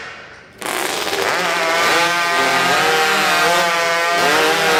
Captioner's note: chainsaw engines rev